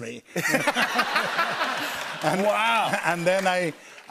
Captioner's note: laughter